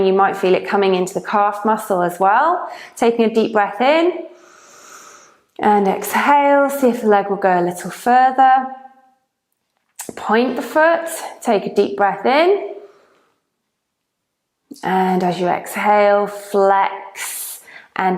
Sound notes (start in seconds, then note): 4.3 breathes deeply